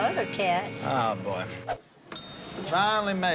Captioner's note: bell dings